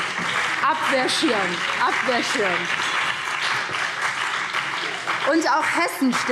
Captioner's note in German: Beifall BÜNDNIS 90/DIE GRÜNEN und CDU